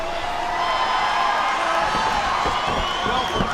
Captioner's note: spectators cheering